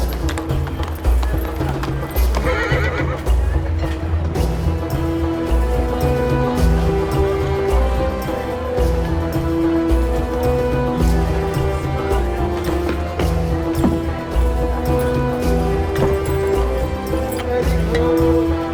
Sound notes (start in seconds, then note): 2.4 horse neighs; 10.7 indistinct chatter